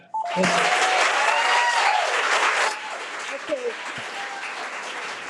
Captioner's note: audience cheering